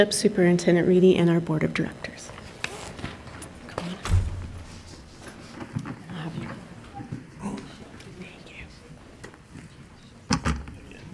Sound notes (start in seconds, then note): 4.4 murmuring